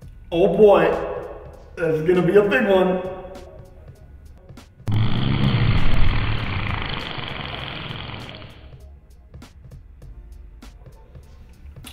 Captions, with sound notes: Oh boy…this is going to be a big one! (Very loudly passes gas)